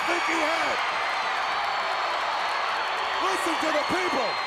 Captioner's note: crowd cheering